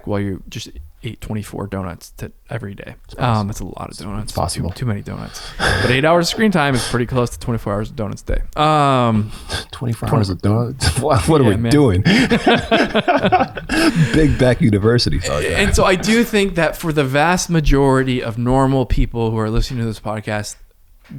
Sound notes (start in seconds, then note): 5.5 laughs; 10.7 laughs; 12.5 all laughing